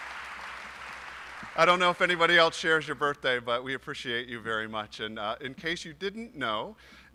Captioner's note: applause